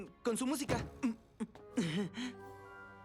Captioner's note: thud